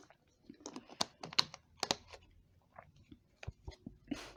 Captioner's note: none